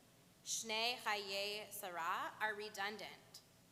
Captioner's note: Hebrew